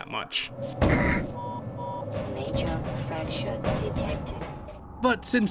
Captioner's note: beep beep beep